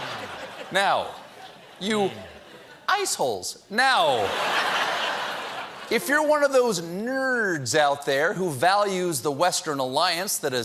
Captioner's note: laughter